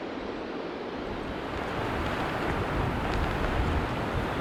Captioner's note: ocean crashing; wind gusting